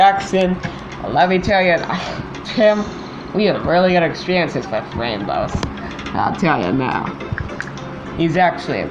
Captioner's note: scoffs